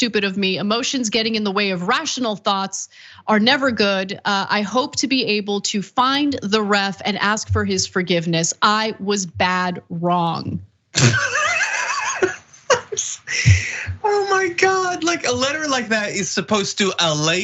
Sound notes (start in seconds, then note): 10.9 laugh